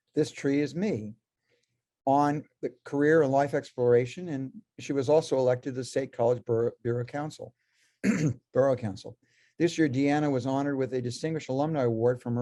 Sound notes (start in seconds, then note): 8.0 clears throat